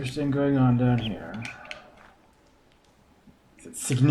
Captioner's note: bird chirps ˥ ˩